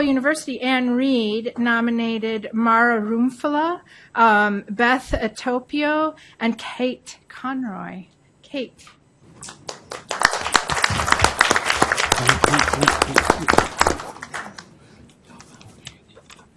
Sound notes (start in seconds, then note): 9.4 audience applauds